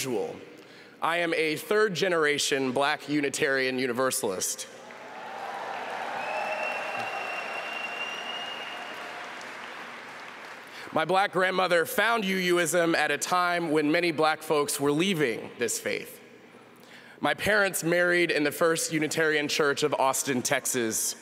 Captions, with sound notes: MY UNITARIAN UNIVERSALIST STORY IS NOT UNIQUE, BUT STATISTICALLY I AM A THIRD GENERATION BLACK UNITARIAN UNIVERSALIST. [APPLAUSE] MY BLACK GRANDMOTHER FOUND UUISM AT A TIME WHEN MANY BLACK FOLKS WERE LEAVING THIS FAITH.